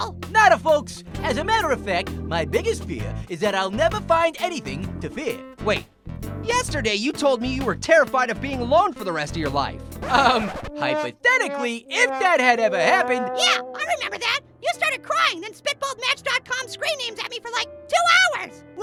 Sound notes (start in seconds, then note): 10.0 record scratch; 10.5 sad trombone